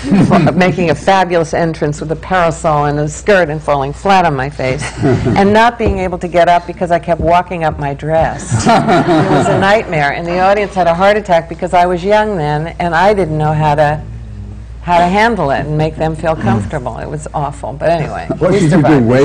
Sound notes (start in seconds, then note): 0.2 laughter; 8.4 laughter